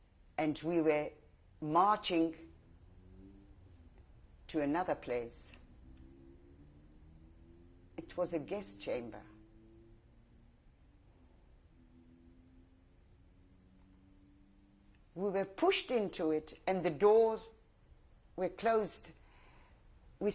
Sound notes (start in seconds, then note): 5.5 pauses for 3 seconds; 9.1 pauses for 6 seconds